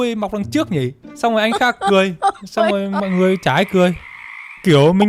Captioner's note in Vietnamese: tiếng cười